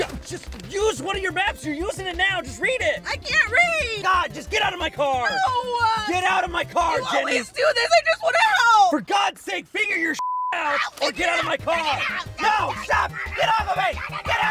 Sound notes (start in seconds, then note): 10.2 beeps